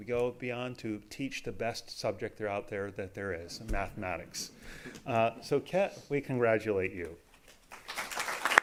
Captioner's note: applause